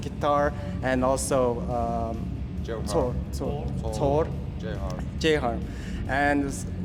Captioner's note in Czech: brumle